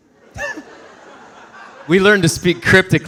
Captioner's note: audience laughing